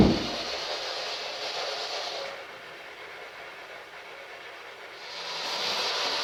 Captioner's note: white Noise